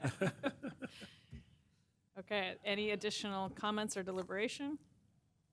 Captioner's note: laughter